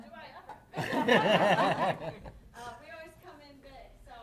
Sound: chuckling

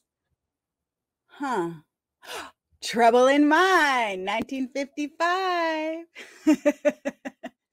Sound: gasps; laughs

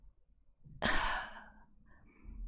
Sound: sighs

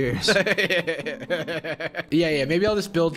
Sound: laughing loudly

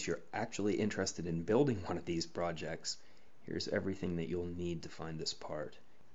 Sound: chuckles

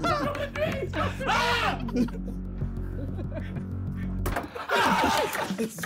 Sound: men laughing; shouts loudly

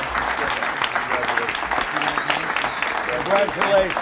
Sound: applause

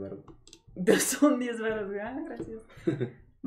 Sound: teasing & laughing

